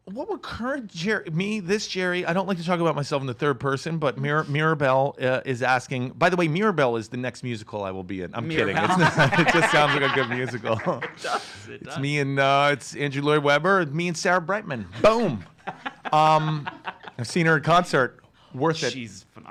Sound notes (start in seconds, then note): 8.6 laughs; 8.6 chuckles; 8.6 everybody laughing; 14.9 laughs